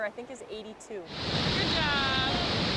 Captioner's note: water rushing